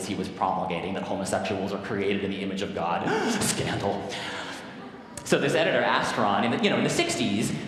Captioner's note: gasp